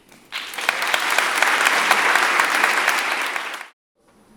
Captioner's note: audience applauds